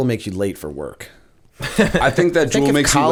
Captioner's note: chuckle